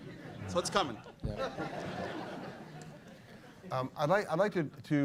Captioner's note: laughter